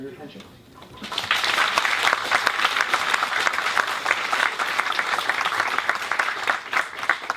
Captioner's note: applause